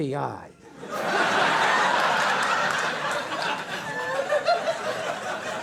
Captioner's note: audience laughing